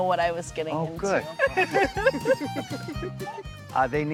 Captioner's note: laughs